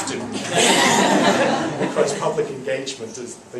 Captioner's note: laughs